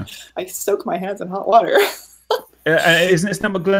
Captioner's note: laughing